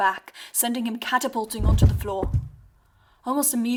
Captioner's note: thud